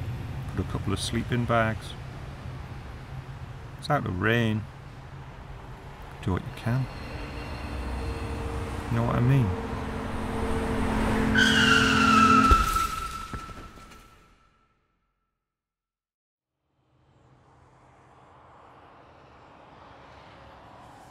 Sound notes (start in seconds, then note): 11.2 tires screech; 12.5 car crashes; 18.9 cars passing